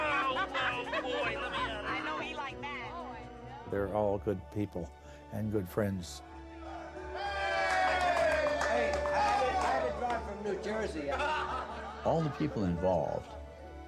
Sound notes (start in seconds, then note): 6.6 people cheering